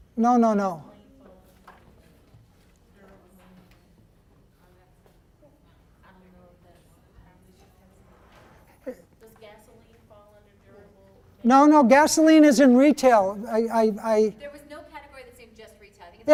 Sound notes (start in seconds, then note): 0.2 people chattering; 9.1 voiceover; 14.5 voiceover